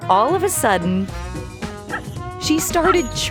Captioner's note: Pam chirping